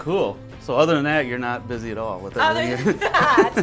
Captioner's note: laughs